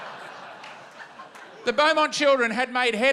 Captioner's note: laughter